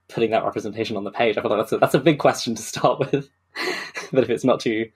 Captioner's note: laughing